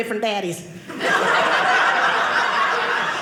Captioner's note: audience laughing